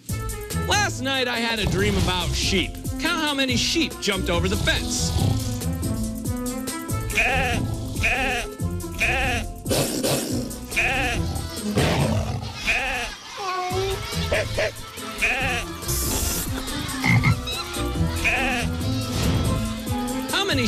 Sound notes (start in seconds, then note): 5.0 snoring; 7.1 sheep bleating; 11.1 wolf growling; 11.7 lion roaring; 13.9 cat meowing; 14.3 dog barking; 15.8 slurping noise; 17.0 frog croaking